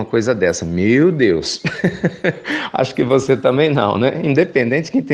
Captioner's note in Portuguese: Risos